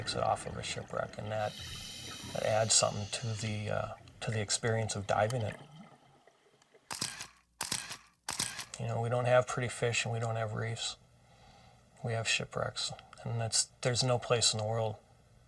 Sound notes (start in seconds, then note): 7.6 camera clicking photos